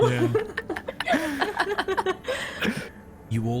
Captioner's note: all giggles